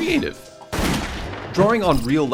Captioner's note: gunshot